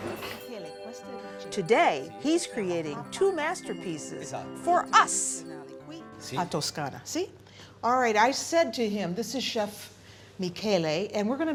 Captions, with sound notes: Today he's creating two masterpieces for us. [speaking italian] All right, I said to him, this is Chef Michaela, and we're going